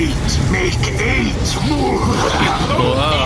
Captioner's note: evil laughter